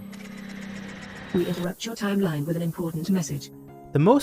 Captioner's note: woman robot voice